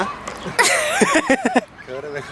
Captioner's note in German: beide lachen